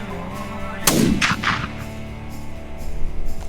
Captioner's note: gun shot